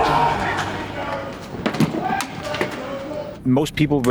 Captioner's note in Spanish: Murmullo indistinto de fondo